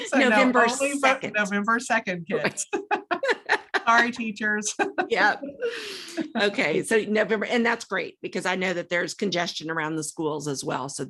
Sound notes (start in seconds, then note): 2.4 laughter continues